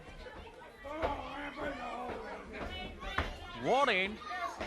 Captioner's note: crowd chatter